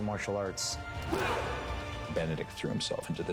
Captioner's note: all grunt